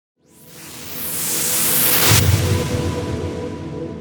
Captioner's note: whooshing